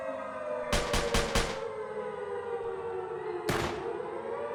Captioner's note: gunfire blasting